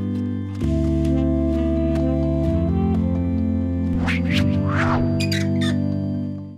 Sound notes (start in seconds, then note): 3.9 whoosh; 4.0 squeaking